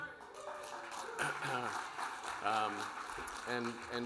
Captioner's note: audience applauding